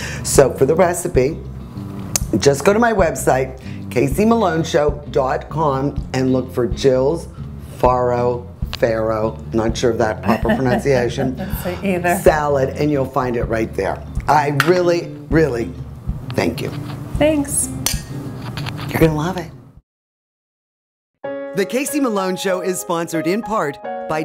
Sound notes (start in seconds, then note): 10.2 laughing; 17.8 glasses clanking